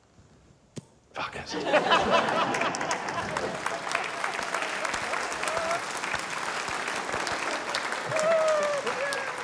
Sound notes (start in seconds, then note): 1.5 laughter; 4.4 applause